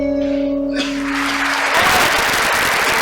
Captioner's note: rapturous applause